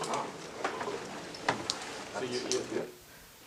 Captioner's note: indistinct conversation